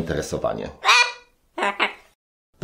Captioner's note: cockatoo shriek